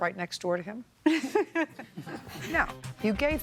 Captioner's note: laughing